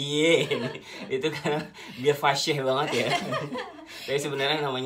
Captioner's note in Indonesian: ketawa